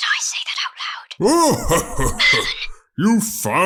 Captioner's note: merlon laughs